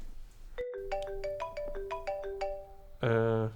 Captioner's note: phone ringing